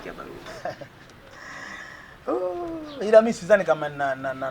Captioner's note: laughs